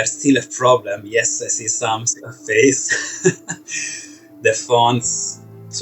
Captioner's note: laughs